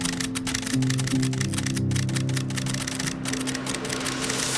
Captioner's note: camera clicking